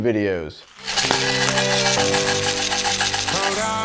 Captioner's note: rattling